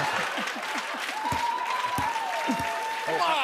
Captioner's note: cheers and applause